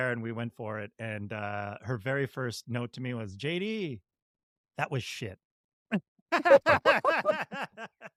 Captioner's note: laughs